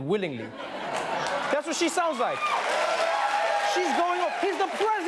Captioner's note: applause, cheering